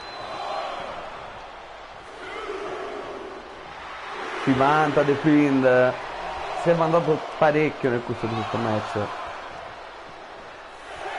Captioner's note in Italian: Applauso; Applauso